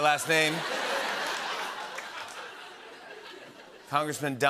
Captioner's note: laughter